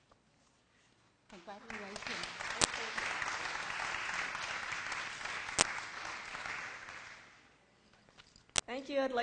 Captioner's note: applause